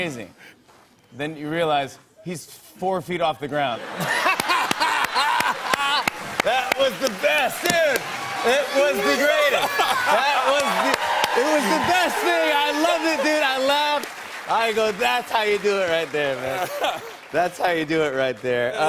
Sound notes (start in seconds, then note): 3.5 laughter and applause